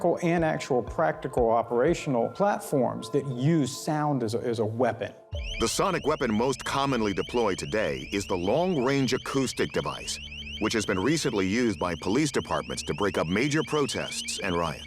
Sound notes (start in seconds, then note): 4.3 loud chirping